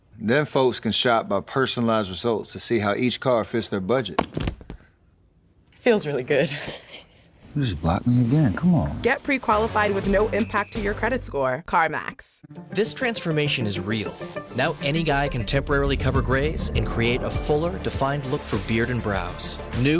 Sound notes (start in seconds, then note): 4.2 phone clattering; 7.8 laugh